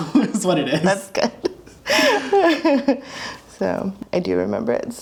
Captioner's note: laughing